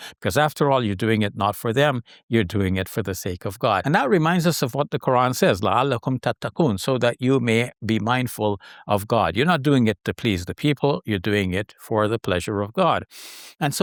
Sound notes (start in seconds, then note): 5.6 speaking in foreign language